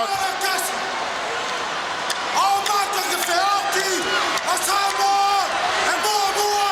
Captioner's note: Wild Samoan speaking in foreign language